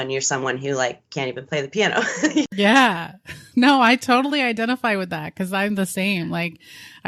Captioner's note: giggles